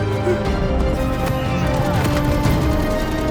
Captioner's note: grunting